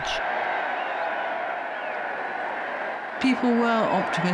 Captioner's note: crowd cheering